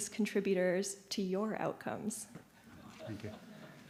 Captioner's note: audience laughing